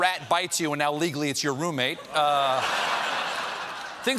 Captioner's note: laughter